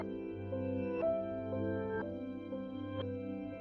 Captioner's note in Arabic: none